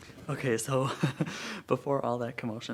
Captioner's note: chuckles